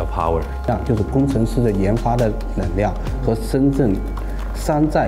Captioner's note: speaking in Chinese